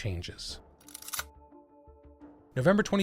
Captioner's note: camera shutter